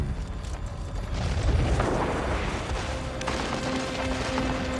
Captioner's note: gunfire